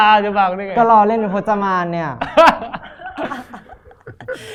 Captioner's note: laugh